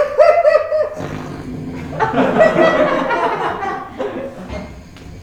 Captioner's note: Corin snoring